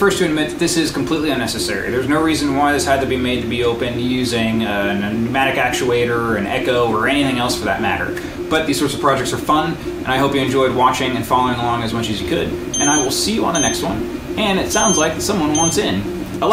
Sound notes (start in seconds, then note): 12.7 device beeping